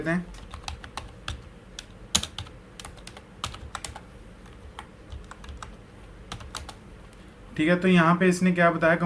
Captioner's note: typing